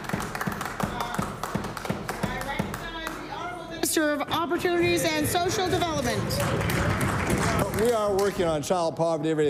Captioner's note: applause